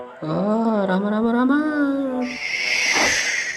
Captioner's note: screams